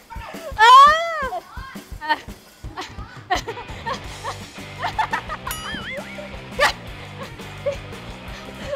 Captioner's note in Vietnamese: Tiếng cười